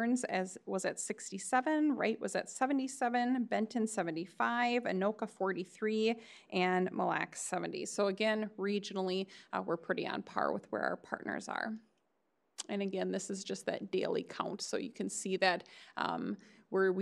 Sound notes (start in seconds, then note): none